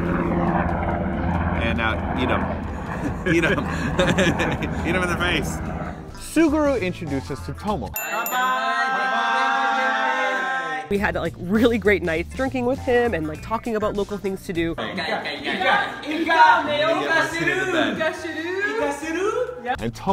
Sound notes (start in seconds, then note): 2.7 laughing; 8.0 cheers; 15.9 speaking Japanese